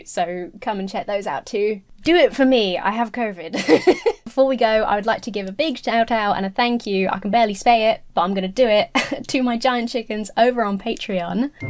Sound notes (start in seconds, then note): 3.5 laughing